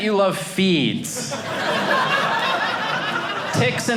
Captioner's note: audience laughing